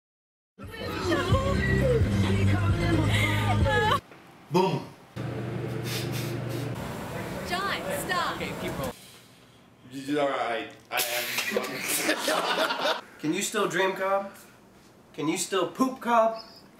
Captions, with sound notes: Boom *sniffle* YUSUF- Can you still dream, Cobb? Can you still POOP, Cobb?